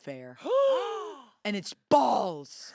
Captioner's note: everyone gasps